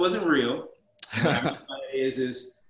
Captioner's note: laughs